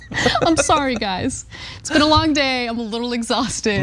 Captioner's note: laugh